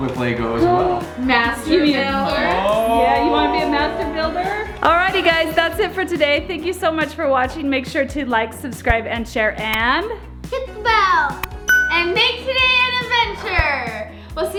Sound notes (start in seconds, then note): 11.6 bell dings